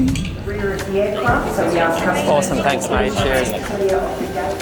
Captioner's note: all conversing